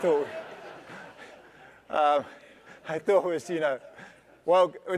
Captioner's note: laugh